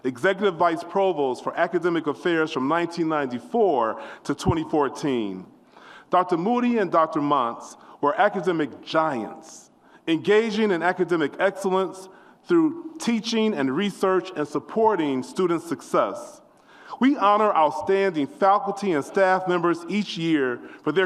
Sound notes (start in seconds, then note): none